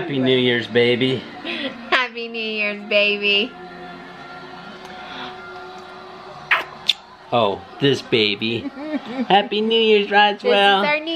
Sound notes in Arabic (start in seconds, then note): 0.3 تتنهد; 4.4 ضوضاء المعانقة